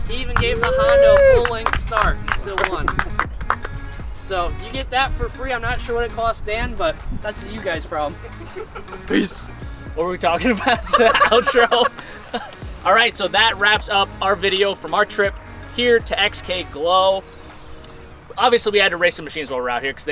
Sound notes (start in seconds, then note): 2.0 participants clapping; 10.3 laughing